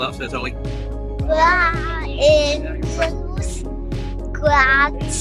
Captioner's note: attempting Icelandic